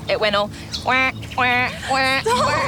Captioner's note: duck quacks; laughs